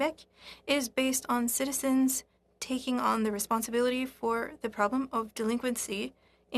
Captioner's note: speaking French